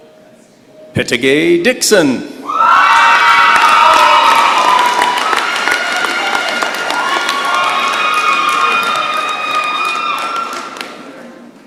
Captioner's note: cheering and applause